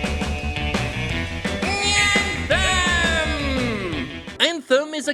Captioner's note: as Skeletor